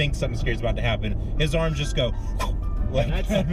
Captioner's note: whooshing sounds